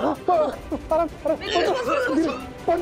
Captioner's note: coughs